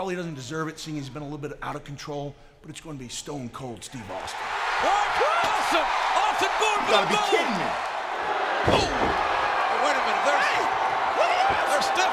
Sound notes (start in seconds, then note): 4.3 audience cheering